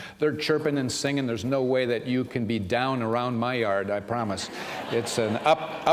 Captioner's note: laughter